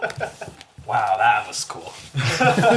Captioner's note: all laugh